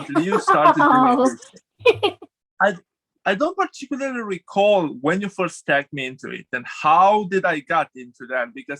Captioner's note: laughs